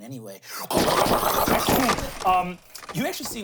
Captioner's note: imitates mangler crunching